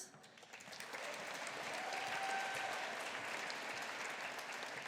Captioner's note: audience applauding